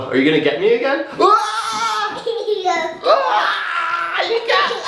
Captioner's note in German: schreit